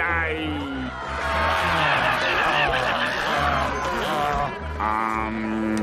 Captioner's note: multiple screams